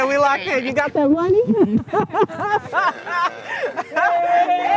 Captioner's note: all laughing